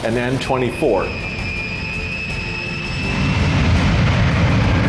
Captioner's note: plane engine roaring